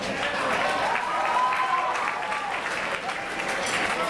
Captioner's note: audience cheering